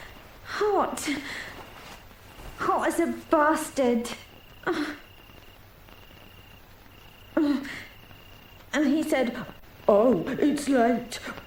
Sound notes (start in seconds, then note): 4.6 Barbra groaning